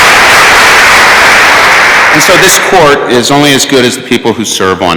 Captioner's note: applause